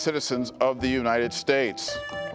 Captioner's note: buzzer beeps